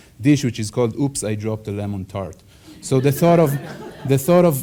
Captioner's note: audience laughs